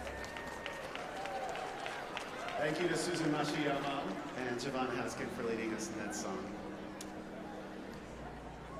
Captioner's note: applause